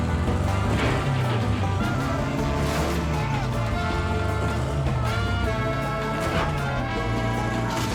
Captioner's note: engine revving; upbeat music